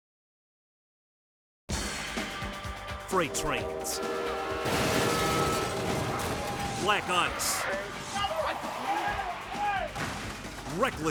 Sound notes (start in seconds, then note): 1.6 tense music; 4.6 vehicle thuds